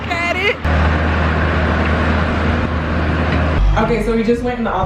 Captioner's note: construction equipment humming